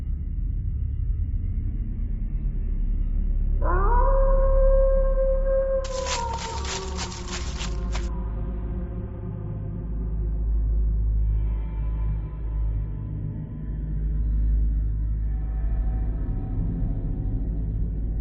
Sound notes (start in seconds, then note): 3.9 wolf howl; 5.8 footsteps crushing leaves